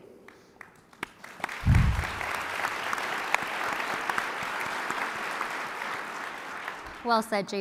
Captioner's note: applause